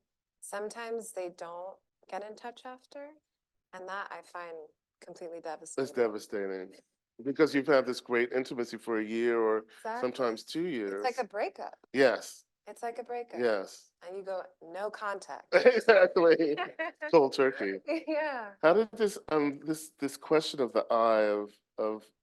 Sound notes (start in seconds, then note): 15.5 laughing